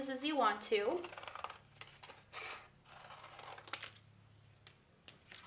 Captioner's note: scissors snipping